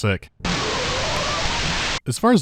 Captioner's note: sounds of being sick